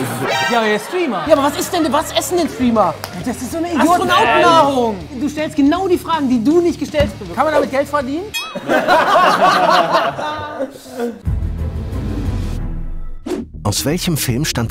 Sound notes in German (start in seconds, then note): 8.5 Gelächter; 11.2 Spannungsvolle Musik